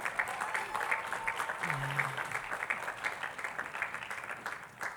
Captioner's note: attendees clapping